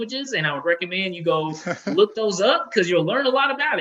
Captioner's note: chuckles